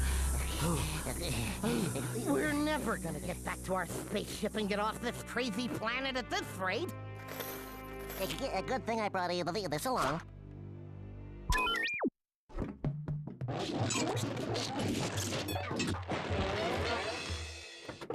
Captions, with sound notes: [both panting] WE'RE NEVER GOING TO GET BACK TO OUR SPACESHIP AND GET OFF THIS CRAZY PLANET AT THIS RATE. [stuttering] GOOD THING I BROUGHT THIS ALONG. [beeping]